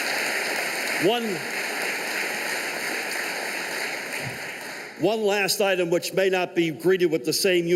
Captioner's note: applause